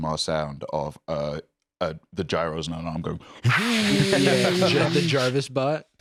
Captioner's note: whirring